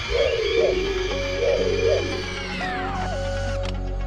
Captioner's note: whirring sound